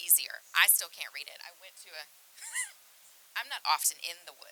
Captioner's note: laughs